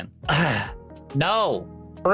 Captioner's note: sighs